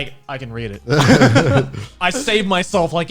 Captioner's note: guys laughing